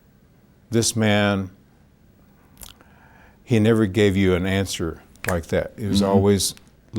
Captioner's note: snaps fingers